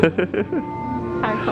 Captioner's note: laughing